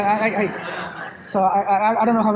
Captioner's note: laughter